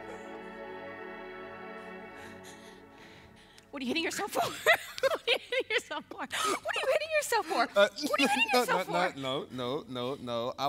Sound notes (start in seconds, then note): 4.2 Connie laughs